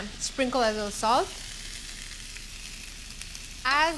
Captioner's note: sizzling